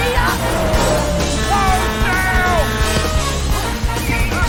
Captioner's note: horn blaring